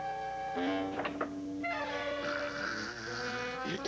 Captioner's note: snoring